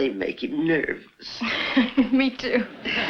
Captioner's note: chuckles